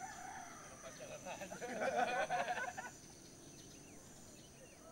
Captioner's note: laughs